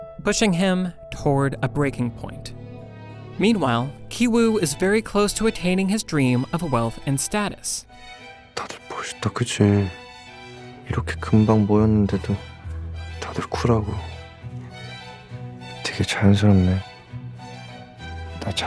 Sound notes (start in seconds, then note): 8.1 speaking foreign language